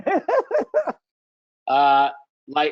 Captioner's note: laughing